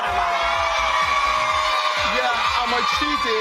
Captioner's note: cheering